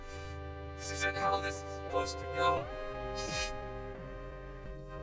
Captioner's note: sniffles